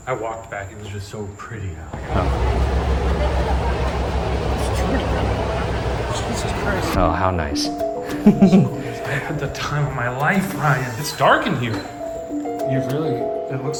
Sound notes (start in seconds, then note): 1.9 crowd chattering; 8.1 giggling